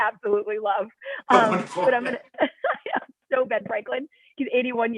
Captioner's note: laughter